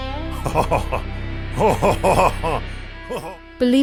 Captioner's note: lustful chuckling